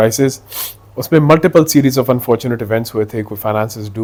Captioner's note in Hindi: नाक से की जाने वाली आवाज़